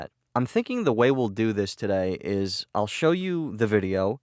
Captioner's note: none